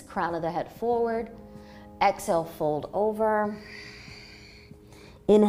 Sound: exhaling

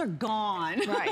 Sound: laughter

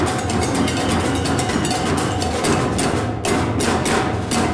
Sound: whistle blows

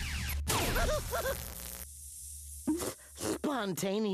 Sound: yelping

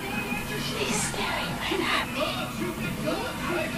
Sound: whispering

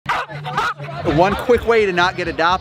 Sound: dog barks

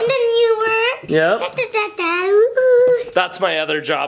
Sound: makes keyboard noises

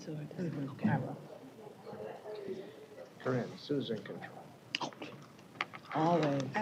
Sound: indistinct chatter

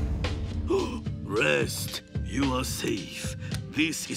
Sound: gasping

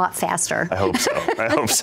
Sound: laughs

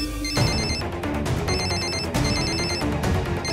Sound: phone rings

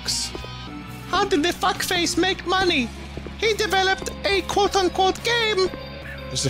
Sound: imitating the child

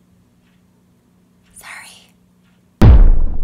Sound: whispers

